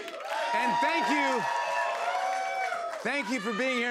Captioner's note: cheers and applause